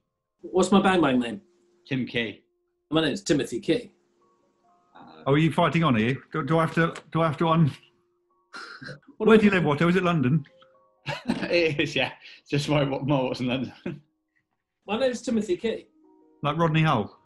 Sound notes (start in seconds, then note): 11.0 laughs